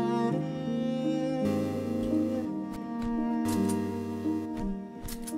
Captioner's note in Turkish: alarm sesleri